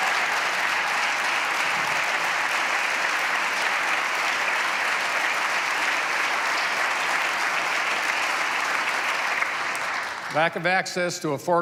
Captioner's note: applause